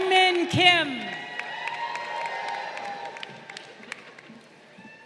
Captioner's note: crowd cheering